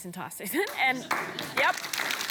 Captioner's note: applause